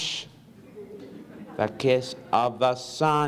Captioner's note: audience laughs